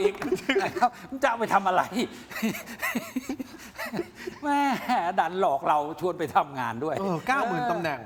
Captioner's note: laughter; laughter